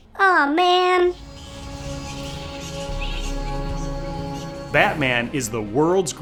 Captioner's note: bats chittering